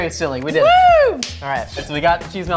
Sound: wooing

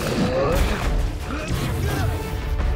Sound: grunting

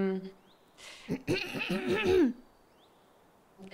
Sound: clears throat

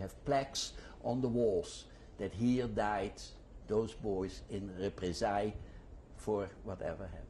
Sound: non-english

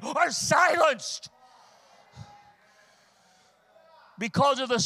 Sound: congregation muttering in agreement

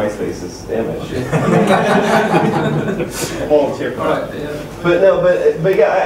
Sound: laughter

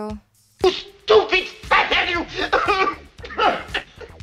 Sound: sobbing

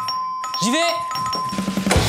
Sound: ding Dong

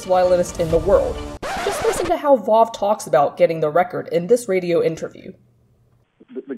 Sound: record scratch

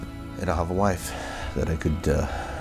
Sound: sighs

